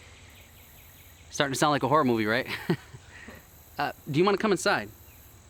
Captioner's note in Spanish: risas